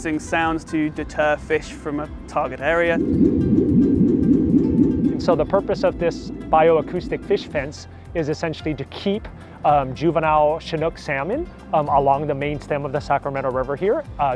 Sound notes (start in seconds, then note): 2.2 pulsating sounds